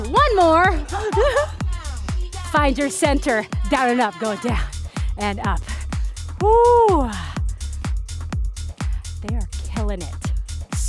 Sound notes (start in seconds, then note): 0.7 laughter